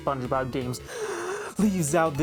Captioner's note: inhale